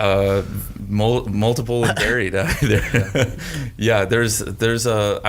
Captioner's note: chuckles